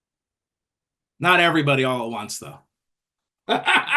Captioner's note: laughs